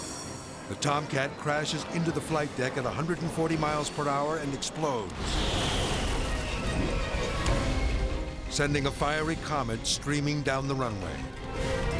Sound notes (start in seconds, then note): 5.0 metal crashing; 5.1 explosions popping